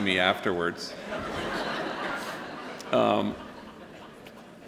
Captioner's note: laughter